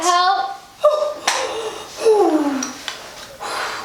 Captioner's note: labor breathing